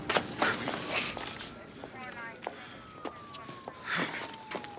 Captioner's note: police radio chatter